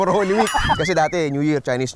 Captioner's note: laughs